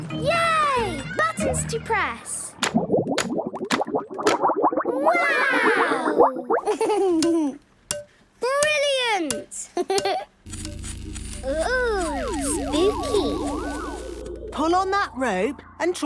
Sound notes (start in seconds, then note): 2.6 bubbling; 10.4 pulsing